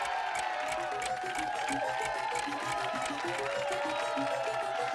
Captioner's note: clock ticking